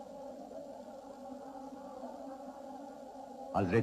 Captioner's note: muffled chanting